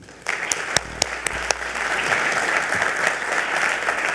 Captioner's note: audience applauds